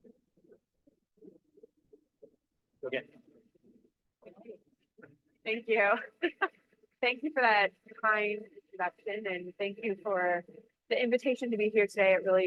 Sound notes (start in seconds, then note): 6.2 chuckles